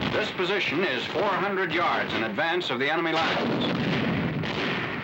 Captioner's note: voiceover